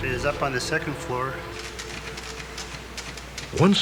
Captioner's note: typing